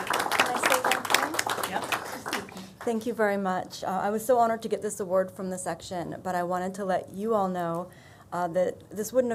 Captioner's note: applause